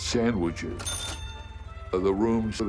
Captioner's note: cash register dings